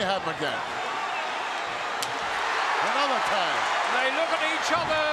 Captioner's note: audience cheering